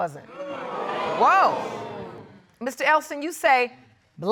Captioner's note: audience exclaiming